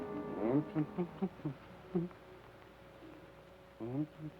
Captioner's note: Joshua hums melodically